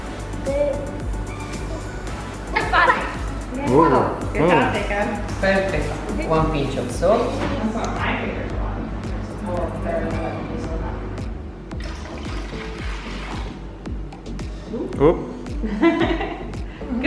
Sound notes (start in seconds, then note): 11.7 water pouring; 15.6 laughs